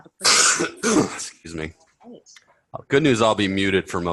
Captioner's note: coughs